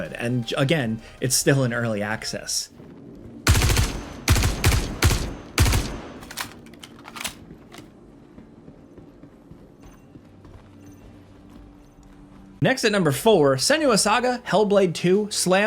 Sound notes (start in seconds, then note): 3.4 gun banging; 6.4 gun clacking